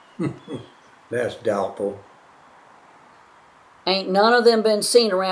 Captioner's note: laughs